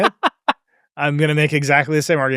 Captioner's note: laughs